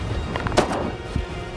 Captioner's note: gun shot